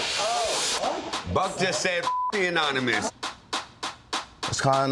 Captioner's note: beep